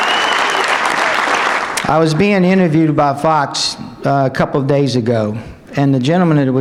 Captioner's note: applause